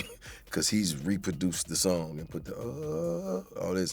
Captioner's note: vocalizes